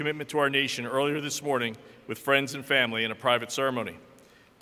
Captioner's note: none